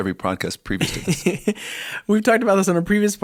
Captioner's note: chuckle